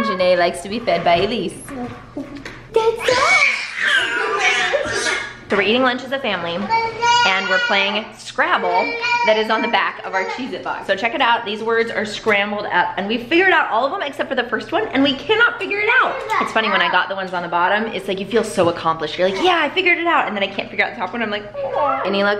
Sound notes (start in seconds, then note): 3.9 yelling